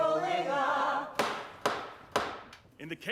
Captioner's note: gavel banging